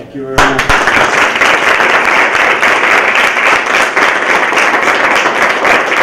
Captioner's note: applause